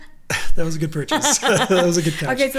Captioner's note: laughs